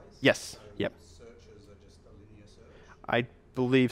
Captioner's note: voiceover